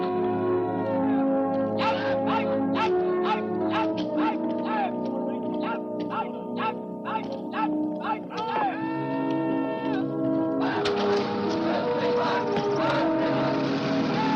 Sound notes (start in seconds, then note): 10.7 engine starts